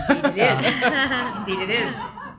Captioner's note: audience laughs